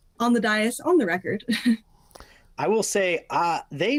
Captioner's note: chuckling